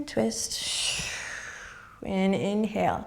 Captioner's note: exhaling